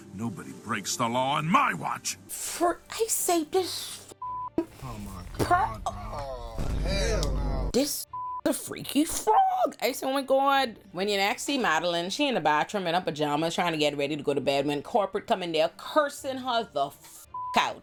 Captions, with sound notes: Nobody breaks the law in my watch. For I say this, this freaky frog. (crowd groaning) This the freaky frog. I say, oh my God, when you're actually modeling, she in a bathroom in a pajama trying to get ready to go to bed when corporate coming there, cursing her the out